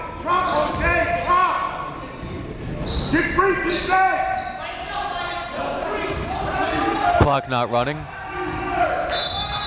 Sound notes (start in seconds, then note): 5.0 crowd yells